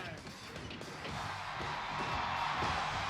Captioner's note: applause